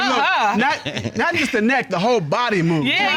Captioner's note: chuckles